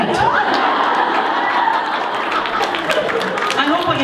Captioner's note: laughter